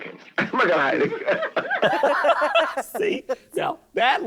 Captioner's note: laughing